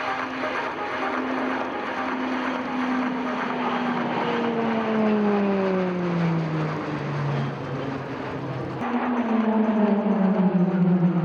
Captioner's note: PC21 aircraft sounds